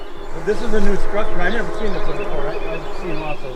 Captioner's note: chuckling; bees buzzing